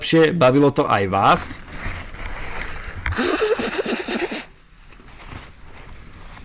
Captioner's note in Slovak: smiech